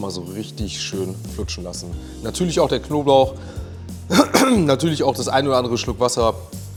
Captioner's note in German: räuspern; husten